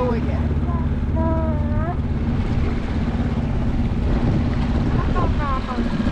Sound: chattering; motor whirring

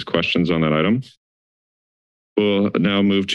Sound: silence

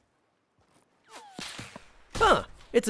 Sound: gunfire

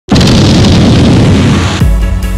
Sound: bomb

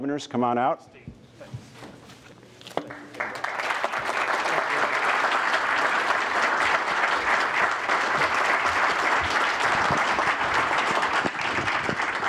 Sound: applause

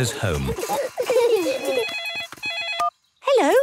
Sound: giggling; phone ringing

